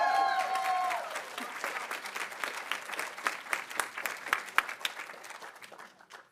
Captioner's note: audience cheering; audience applauding